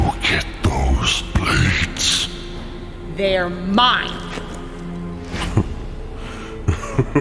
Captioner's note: chuckles